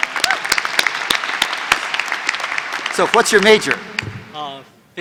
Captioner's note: applause